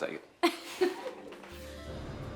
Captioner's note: Candace laughs; soft pensive music